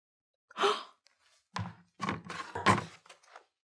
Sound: gasping

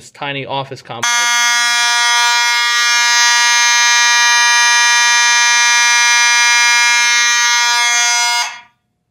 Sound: constant horn/buzzer sound

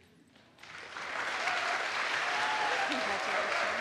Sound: audience applauds; audience cheers

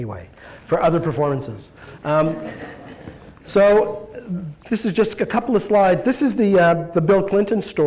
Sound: laughter

